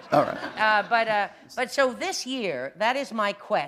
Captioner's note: laughter